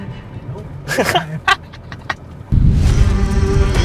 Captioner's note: chuckles